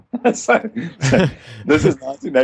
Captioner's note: laughter